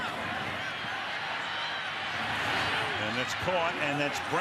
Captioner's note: cheers, applause